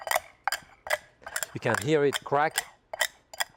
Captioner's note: crunching